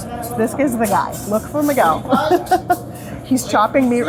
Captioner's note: laughing